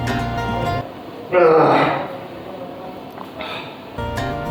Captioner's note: grunting